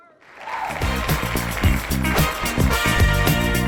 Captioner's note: audience applauding; upbeat music